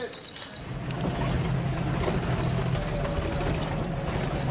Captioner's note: engine rumbling